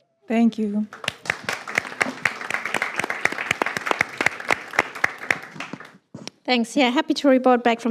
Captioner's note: applause